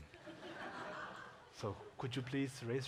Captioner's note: congregation laughing